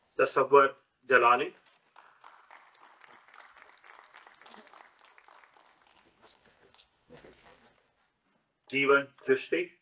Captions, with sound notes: Dassabwad Jalanik. [APPLAUSE] Jeevan Chishti.